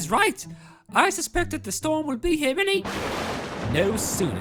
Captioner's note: loud Thunder